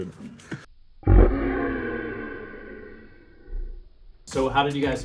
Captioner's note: laughing in slow motion